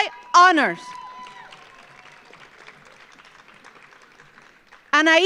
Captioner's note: audience applauds